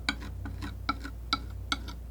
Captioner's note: tapping